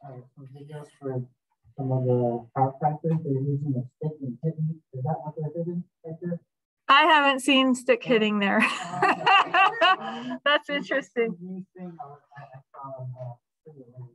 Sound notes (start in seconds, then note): 8.6 laughter